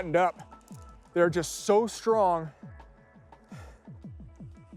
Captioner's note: sighs